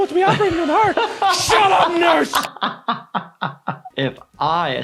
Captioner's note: laughs